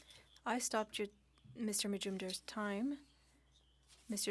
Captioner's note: speaking French